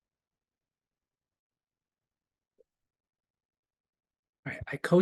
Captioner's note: silence